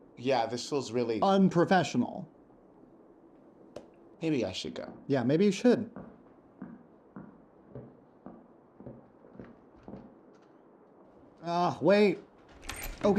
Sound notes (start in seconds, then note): 6.6 footsteps tapping; 12.4 door squeaks